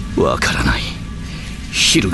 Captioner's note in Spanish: sonidos eléctricos